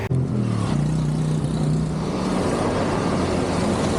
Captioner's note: traffic noise